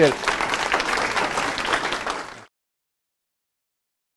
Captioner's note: class claps